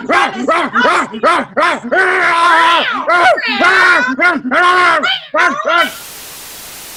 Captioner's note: unintelligible Meowing and Barking